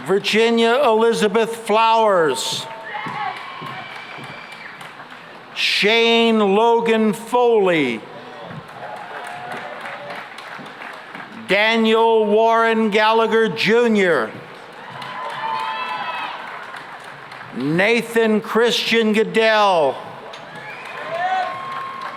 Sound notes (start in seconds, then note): 2.5 cheering and applause; 8.2 applause; 14.5 cheering and applause; 20.2 cheering and applause